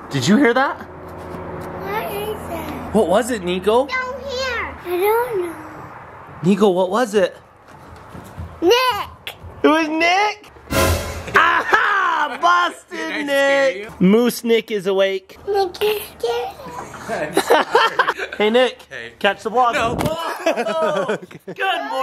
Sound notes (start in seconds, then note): 16.7 laughing; 20.1 laughing